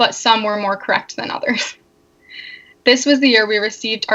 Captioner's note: laughs